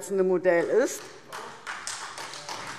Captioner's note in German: Beifall SPD